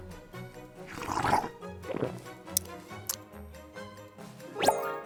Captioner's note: slurping; bright string music; bright ascending music